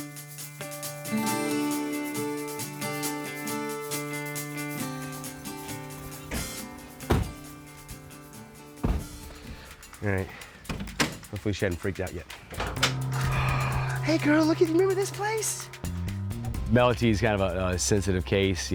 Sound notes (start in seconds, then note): 6.2 van door slams; 8.8 van door clanks open